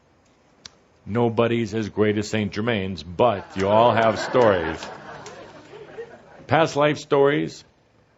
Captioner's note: laughter